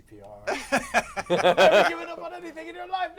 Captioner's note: laughter